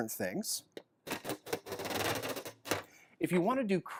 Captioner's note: slow scrapping